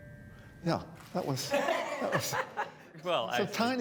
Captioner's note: laughter